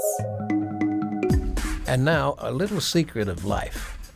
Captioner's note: lady whispering "secrets"